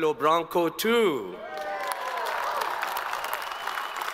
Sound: all applaud

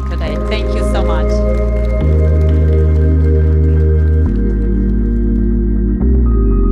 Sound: audience clapping; light airy music

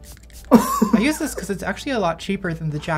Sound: laughs

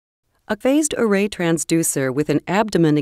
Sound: voiceover

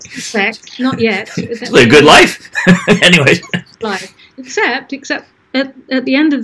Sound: laughs

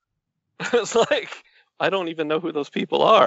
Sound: laughs

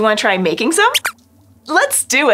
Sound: squeaks squeaks

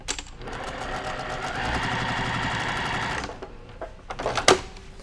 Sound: machine whirring

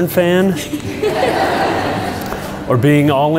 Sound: crowd laughs

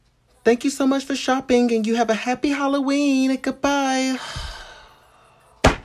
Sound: sighs

